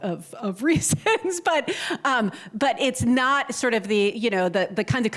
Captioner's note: laughter